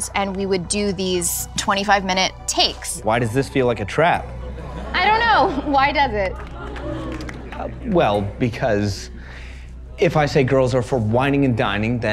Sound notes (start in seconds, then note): 6.5 audience oohing